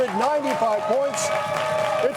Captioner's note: audience clapping and cheering